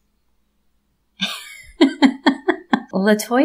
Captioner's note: laugh